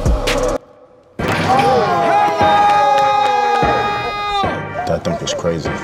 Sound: crowd cheering

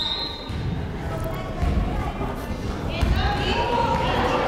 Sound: whistle blows

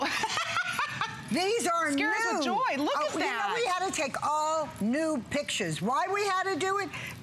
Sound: laughter

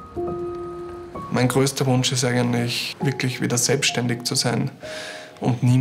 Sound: German

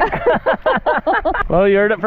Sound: mom and Dad laughing

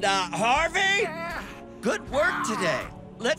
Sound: exclaims

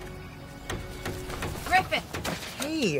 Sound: hammer banging

